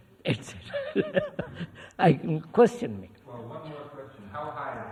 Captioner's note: laughs